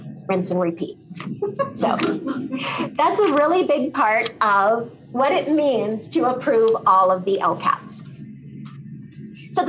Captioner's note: laughter